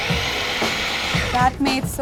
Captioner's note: blender whirs